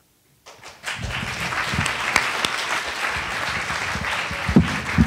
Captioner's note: attendees applauding